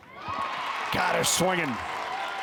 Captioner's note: crowd cheers